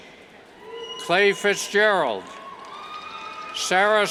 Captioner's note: cheers